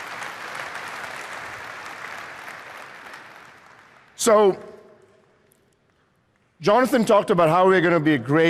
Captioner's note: applause